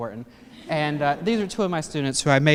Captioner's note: laughter